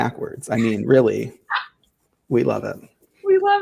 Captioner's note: laughing